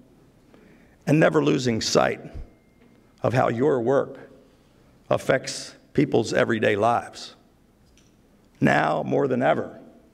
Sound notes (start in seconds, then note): none